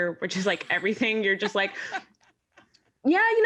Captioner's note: woman laughs